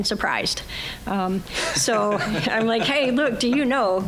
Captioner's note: all laughing